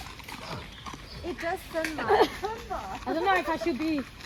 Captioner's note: another visitor chuckles; laughs